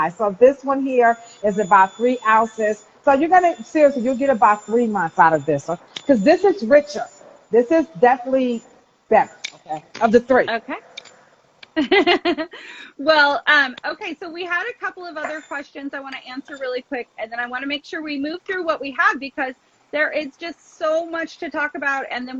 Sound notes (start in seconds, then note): 11.7 laughs